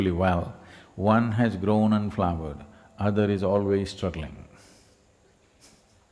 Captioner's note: laughs